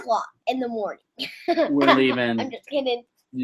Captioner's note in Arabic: يضحك